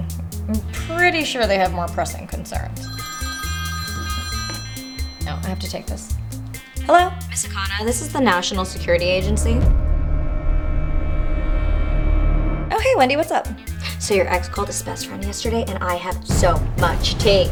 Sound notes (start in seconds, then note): 2.7 phone rings; 9.7 dramatic music